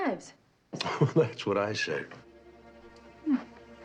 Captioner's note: chuckling